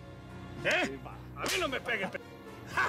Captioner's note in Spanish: bofetada